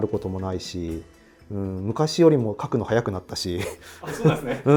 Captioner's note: laughing